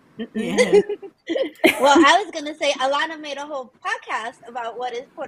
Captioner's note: laughs